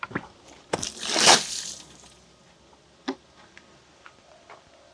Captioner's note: water sloshing